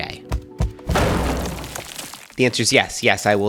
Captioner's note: smash